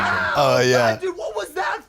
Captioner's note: young screaming